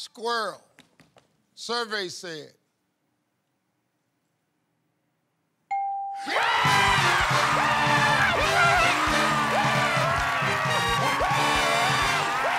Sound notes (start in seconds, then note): 6.2 men cheering